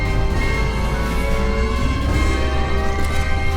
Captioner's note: engines powering up